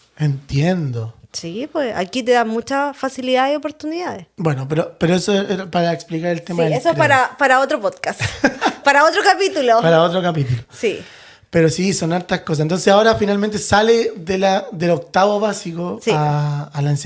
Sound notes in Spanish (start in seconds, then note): 8.1 risas